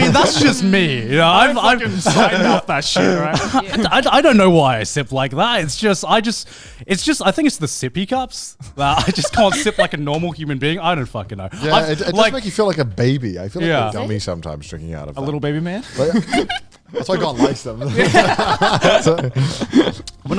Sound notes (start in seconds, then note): 15.8 all laughing; 16.0 laughing